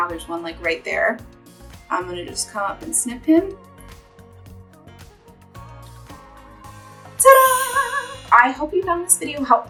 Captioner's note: chimes